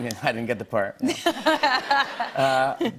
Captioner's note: laughter